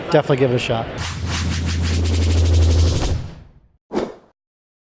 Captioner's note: swooshing